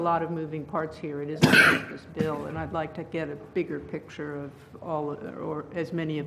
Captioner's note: cough